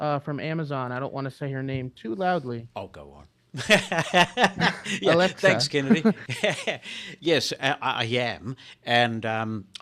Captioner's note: laughing